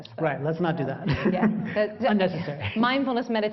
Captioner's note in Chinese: laughter; 笑聲